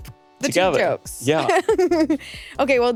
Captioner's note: laughing